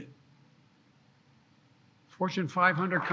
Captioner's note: applause